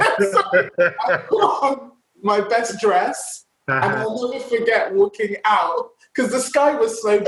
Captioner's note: laughs